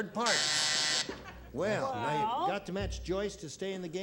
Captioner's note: buzzer